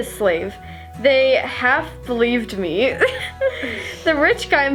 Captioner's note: laughs